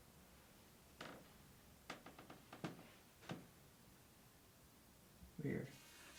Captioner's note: floorboards creaking